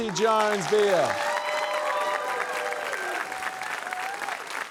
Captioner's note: cheering, applause